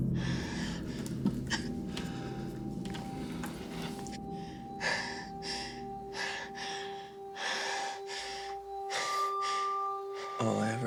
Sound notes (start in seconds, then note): 2.1 Ally crying; 6.1 Ally panting